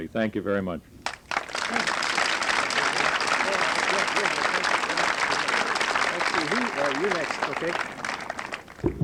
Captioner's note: applause